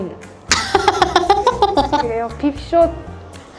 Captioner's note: laughter